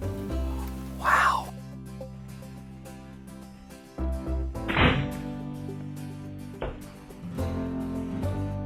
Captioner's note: whispering